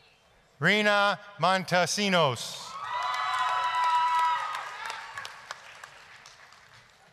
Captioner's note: applause, cheering